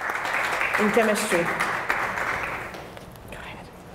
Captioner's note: applause